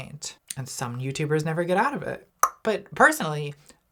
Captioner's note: tongue pops